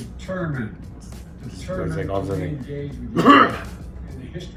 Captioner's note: coughs